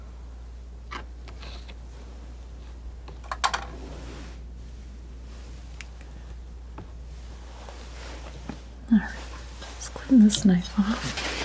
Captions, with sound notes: [scratching] Alright. Let's clean this knife off.